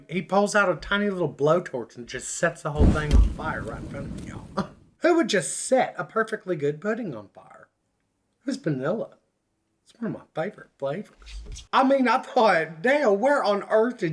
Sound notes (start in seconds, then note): 4.6 scoffs